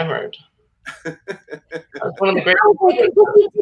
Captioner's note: laughs